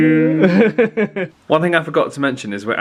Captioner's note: laughs